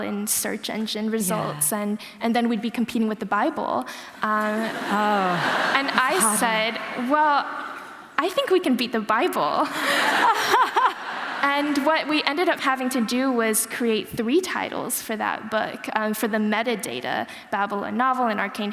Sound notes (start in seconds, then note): 3.8 laughter